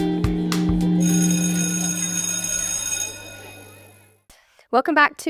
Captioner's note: bell rings